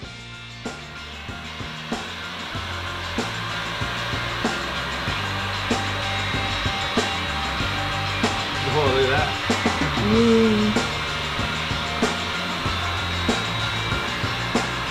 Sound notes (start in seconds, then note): 0.2 upbeat music; 2.9 heat gun blaring